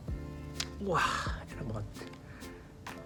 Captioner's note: making a satisfying sound